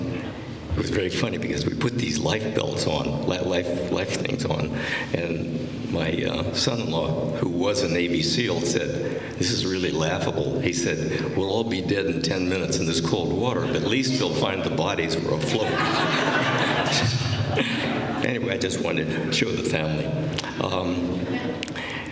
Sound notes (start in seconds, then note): 15.4 laughter